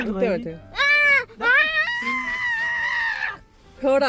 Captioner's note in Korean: 기쁨의 포효